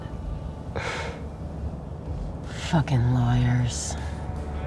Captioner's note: scoffs